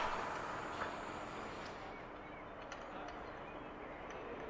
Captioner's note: birds chirping